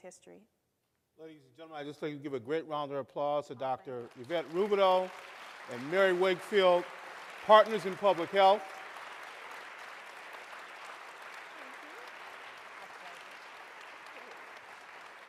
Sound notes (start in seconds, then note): 8.1 applause